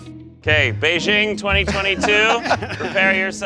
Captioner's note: laughter